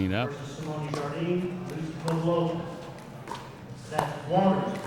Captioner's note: ball clacking